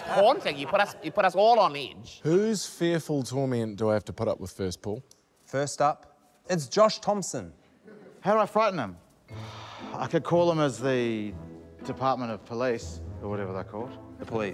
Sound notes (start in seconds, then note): 9.3 sighs